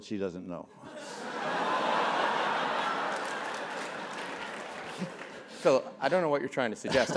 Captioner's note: laugh; applause